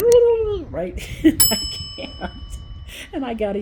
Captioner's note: laugh